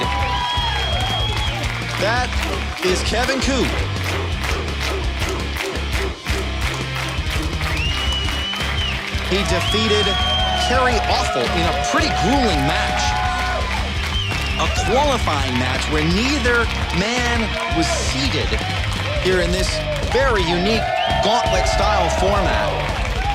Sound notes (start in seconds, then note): 0.3 audience claps and cheers; 3.6 audience cheering in unison